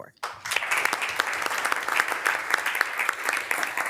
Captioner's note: members applauding